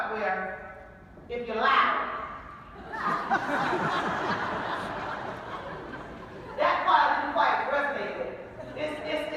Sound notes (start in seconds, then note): 2.8 laughing